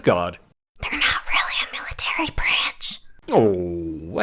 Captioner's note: whispering